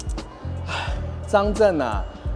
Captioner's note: sigh